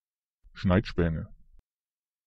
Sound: fast Pronunciation

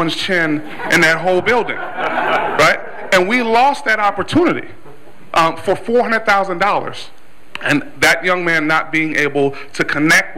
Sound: laughter

